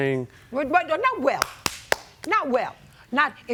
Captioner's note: claps